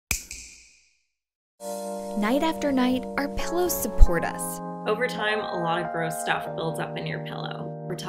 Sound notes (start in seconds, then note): 0.1 snap